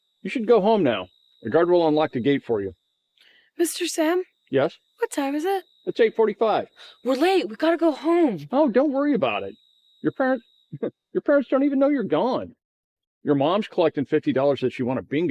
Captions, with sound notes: You should go home now. The guard will unlock the gate for you. - Mr. Sam? - Yes. - What time is it? - It's 8:45. - We're late! We gotta go home! - Oh, don't worry about it. Your parents [chuckles], your parents don't even know you're gone. Your mom's collecting $50 that she won at bingo,